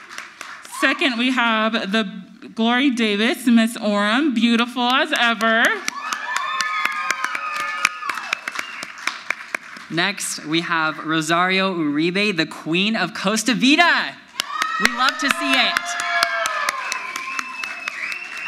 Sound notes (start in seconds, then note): 5.7 audience applauds; 5.9 crowd yells; 16.1 audience applauds; 16.1 crowd yells